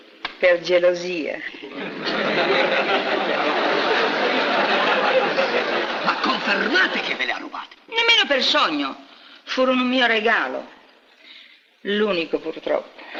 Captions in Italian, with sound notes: Per geIosia. (RISATE ) - Confermate che ve Ie ha rubate? - Nemmeno per sogno. Furono un mio regaIo, I'unico, purtroppo.